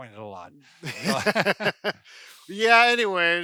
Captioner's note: laughter